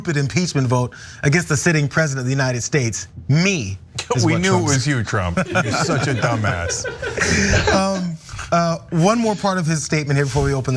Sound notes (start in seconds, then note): 5.4 laugh